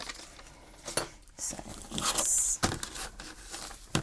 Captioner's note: rustling